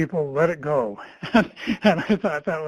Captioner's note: laughs